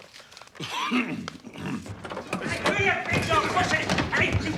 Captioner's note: clears throat